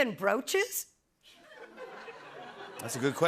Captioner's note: laughter